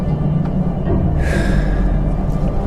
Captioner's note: gasps